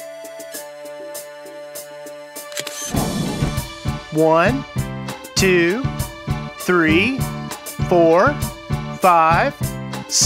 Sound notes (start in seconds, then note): 2.4 SFX: Camera Shutter